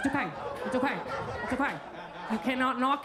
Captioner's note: attendees laugh and clap